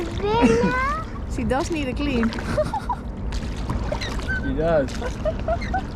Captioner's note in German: spricht in fremder Sprache; lacht